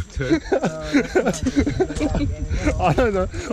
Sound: laughing

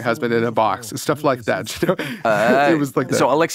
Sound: laughs

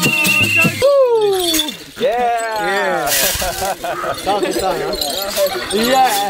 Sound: members speaking in foreign language

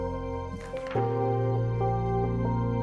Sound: gentle music; slide flips

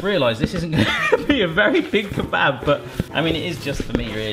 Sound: laughs

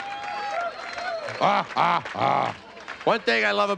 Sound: playful grunting

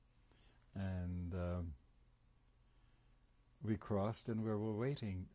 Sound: pauses for 3 seconds

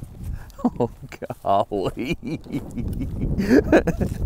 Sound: giggling like a little kid

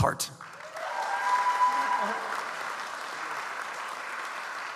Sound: audience applauds

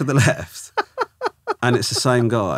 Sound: laughing

